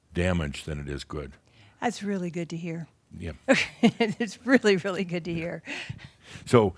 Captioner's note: she chuckles